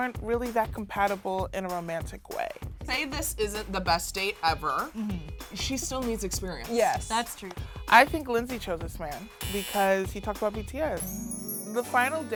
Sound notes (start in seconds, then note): 9.4 buzzer; 11.0 harp glissando